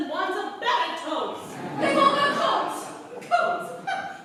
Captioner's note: laughter